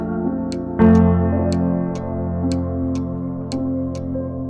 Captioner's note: clock ticks